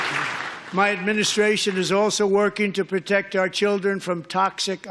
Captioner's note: applause